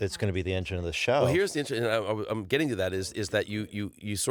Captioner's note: stuttering